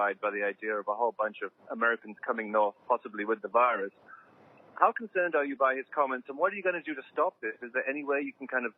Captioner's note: speaking in French